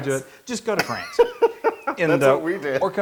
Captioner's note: laugh